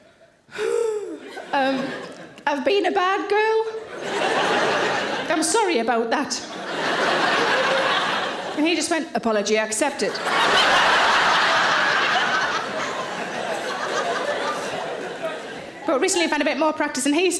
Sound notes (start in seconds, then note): 0.5 anxiously exhales; 3.8 audience laughing; 9.9 audience laughing